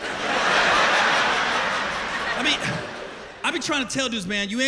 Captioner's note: laughter